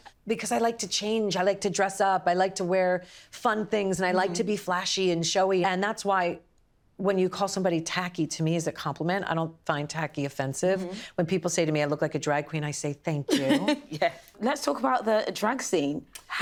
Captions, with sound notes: Because I like to change. i like to dress up. I like to wear fun things, and I like to be flashy and showy. And that's why, when you call somebody "tacky", to me is a compliment. -I don't find "tacky" offensive. -Mm-hmm. When people say to me I look like a drag queen, -I say "thank you." -[LAUGHS] Yeah. Let's talk about the drag scene.